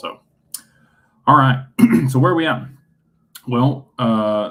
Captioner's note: clears throat